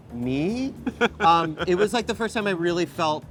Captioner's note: laughs